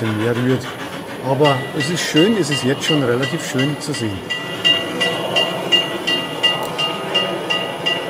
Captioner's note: bell